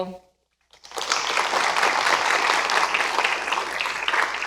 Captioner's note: applause